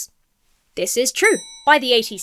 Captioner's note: bell dings